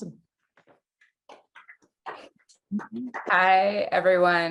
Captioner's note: class clapping